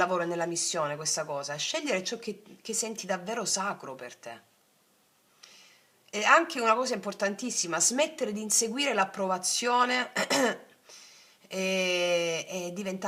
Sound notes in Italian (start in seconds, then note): 10.5 schiarire la voce